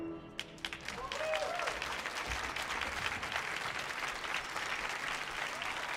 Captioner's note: audience cheers and applauds